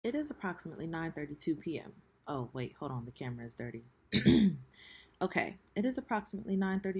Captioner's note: clears throat